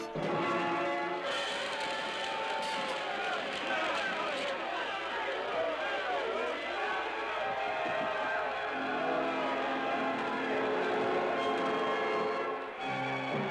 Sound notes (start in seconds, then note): 5.3 yelling